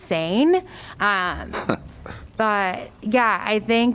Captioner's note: laughter